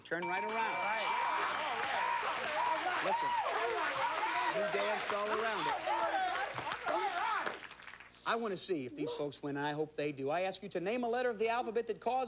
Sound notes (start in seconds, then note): 5.3 cheers and applause